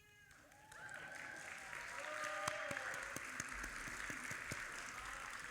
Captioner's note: audience applauding